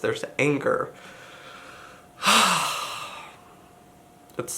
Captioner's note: sighs